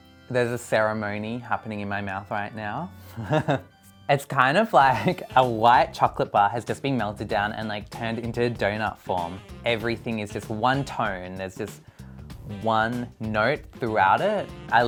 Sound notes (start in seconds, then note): 3.1 chuckles